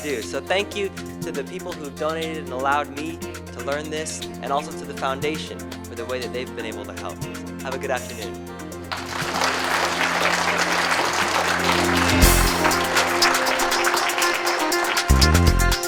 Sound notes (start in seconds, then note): 8.9 applause